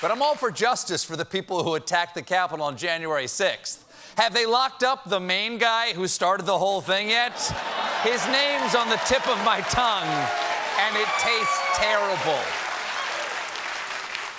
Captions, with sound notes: HAVE THEY LOCKED UP THE MAIN GUY WHO STARTED THE WHOLE THING YET? HIS NAME'S ON THE TIP OF MY TONGUE... ...AND IT TASTES TERRIBLE. ( CHEERS AND APPLAUSE ) AT FIRST, I THOUGHT THIS RALLY WAS SOME KIND OF STING OPERATION, LIKE WHEN THEY OFFER